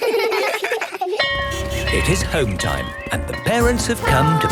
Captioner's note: laughter; bell clanging